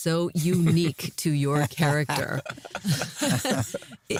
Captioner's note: laughter